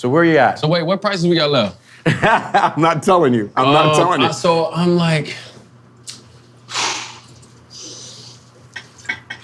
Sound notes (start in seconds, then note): 2.0 laughing; 6.6 Dwyane exhaling; 9.2 glass clinking